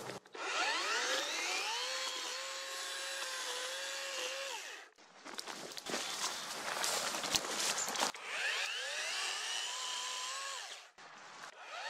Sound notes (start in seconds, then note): 0.0 leaves and branches crackling; 0.0 chainsaw running; 5.2 leaves and branches crackling; 7.6 chainsaw running